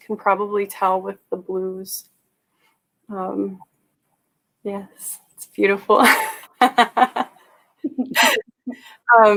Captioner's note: laughter